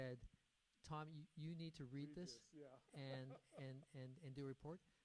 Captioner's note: chuckles